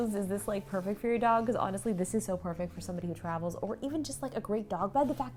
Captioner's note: none